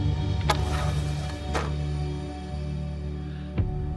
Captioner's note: door clanging